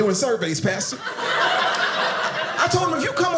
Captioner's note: audience laughing